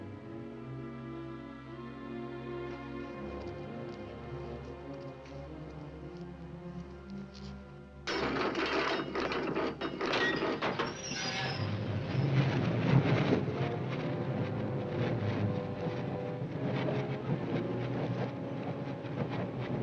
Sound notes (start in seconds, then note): 0.0 ominous music; 8.0 mechanism rattling; 8.0 bang; 9.8 loud squealing